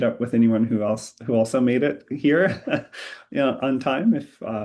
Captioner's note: laughs